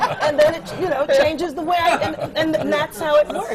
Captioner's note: laughter